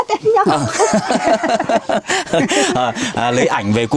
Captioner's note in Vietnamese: tiếng cười